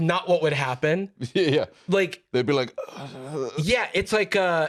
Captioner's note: creaking, confused groan